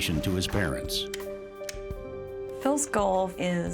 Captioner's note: flicking on lights